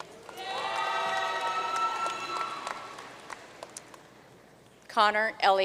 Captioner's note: audience cheering and applauding